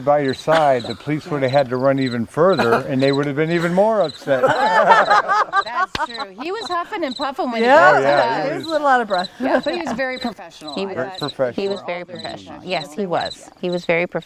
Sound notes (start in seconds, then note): 5.0 people laughing